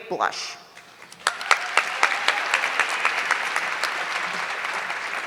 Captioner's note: audience clapping